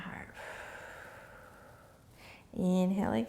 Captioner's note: exhaling